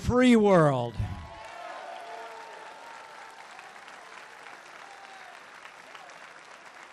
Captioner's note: applause